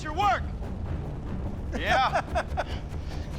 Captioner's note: laughs